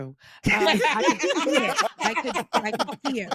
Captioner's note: laughing